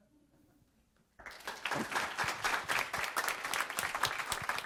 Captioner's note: applause